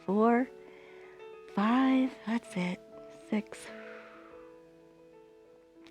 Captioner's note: exhales